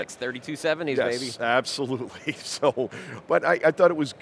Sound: chuckles

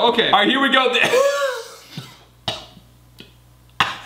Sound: coughing

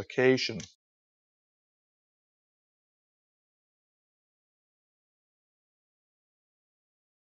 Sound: silence

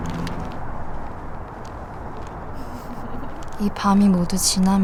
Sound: laughing

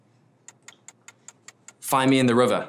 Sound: ticking

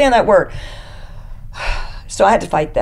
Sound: sighs

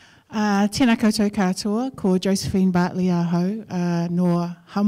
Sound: speaking in foreign language

